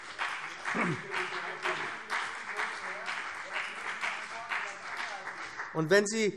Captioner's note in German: Beifall